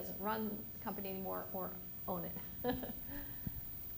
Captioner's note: laughs